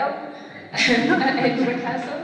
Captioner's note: laughter